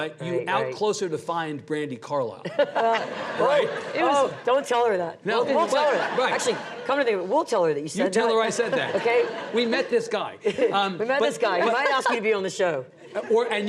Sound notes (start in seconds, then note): 2.5 audience laughs; 2.8 laughs